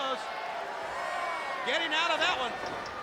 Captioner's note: crowd cheering